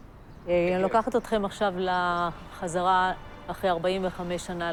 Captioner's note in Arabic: الصوت المنطوق باللغة العبرية